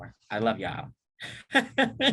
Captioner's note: laughs